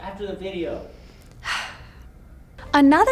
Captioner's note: sighing